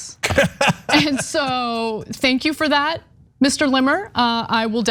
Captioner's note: laugh